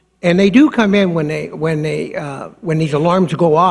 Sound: none

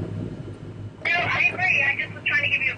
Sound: over the walkie-talkie

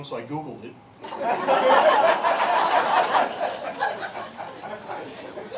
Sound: laughter

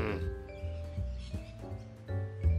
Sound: growls

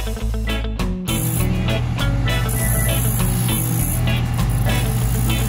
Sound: machine whirring

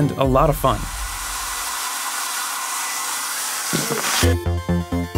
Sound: hair dryer blowing; energetic music

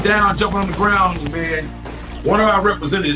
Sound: gunshots fire

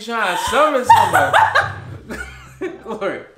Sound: laughs

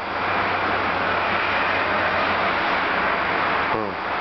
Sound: street noise

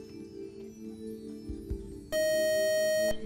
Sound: buzzer

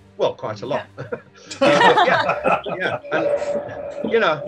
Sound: laughing

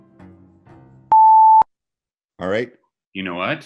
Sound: loud beep noise

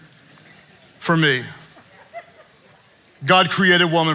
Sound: congregants giggling

